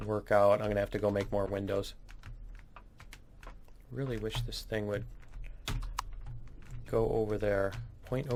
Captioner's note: keystrokes